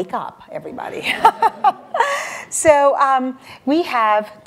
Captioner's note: audience laughter